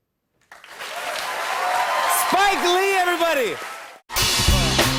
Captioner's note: cheers and applause